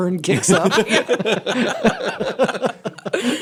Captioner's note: laughter